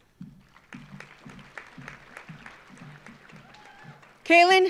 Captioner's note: audience applauding